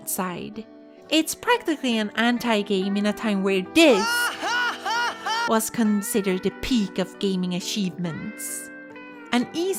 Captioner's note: Tidus laughing